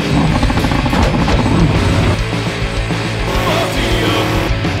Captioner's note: engine revving